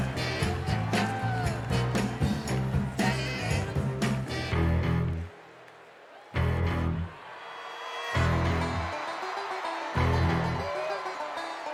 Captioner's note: cheers and applause